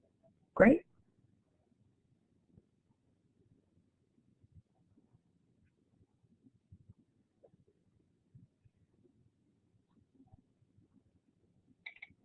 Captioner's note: silence